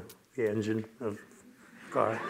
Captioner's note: laughter